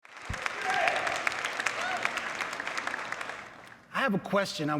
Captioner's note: crowd cheering